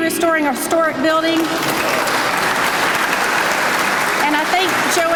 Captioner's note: applause